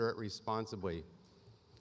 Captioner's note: none